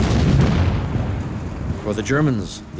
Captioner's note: bomb explodes